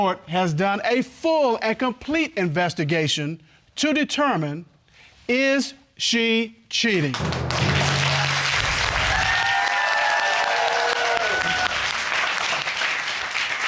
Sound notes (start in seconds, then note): 7.1 audience applause; 10.0 audience cheering